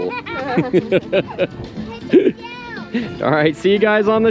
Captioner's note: chuckling